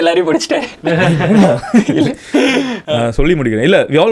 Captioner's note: group laughs